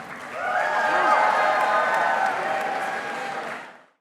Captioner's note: audience cheering